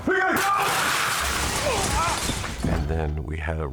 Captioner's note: glass shattering; grunting